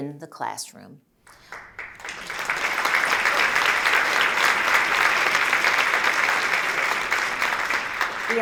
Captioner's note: applause